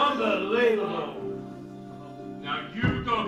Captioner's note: guests mutter angrily